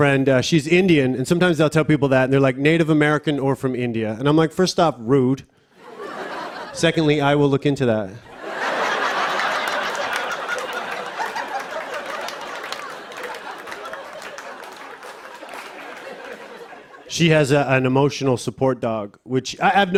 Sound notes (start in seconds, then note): 5.8 laughter; 8.3 laughter and applause